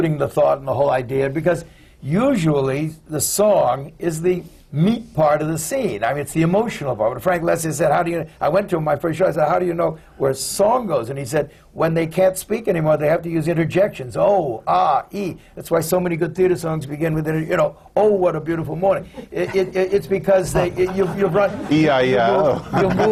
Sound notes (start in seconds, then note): 20.4 laughter